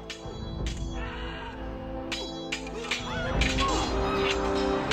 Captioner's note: dramatic music; swords clanking; men screaming; dramatic music